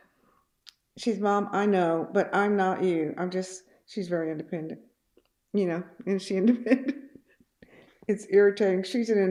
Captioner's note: laughs